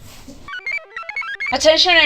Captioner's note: computer chirps